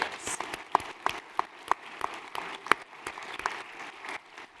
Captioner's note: applause